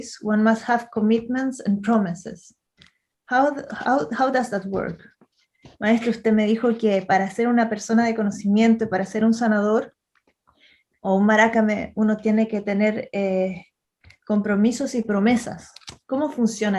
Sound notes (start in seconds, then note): 5.2 asks the question is Spanish